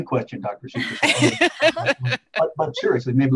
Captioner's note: laughter